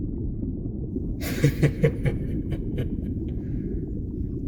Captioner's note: dragon laughs at you